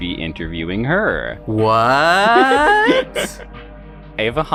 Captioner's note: laughs